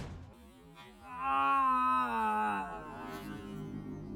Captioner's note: agonizing Death Sounds